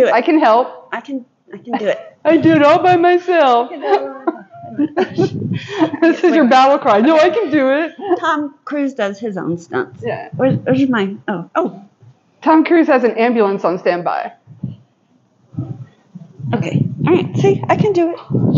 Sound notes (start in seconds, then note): 3.7 laughing